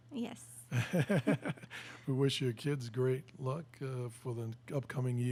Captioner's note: laughs